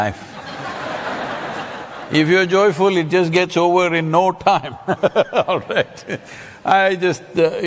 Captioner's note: laughter; laughs